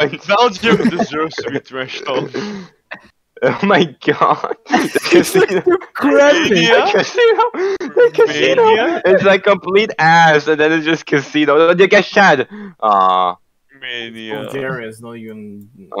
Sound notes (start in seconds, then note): 7.6 wheezing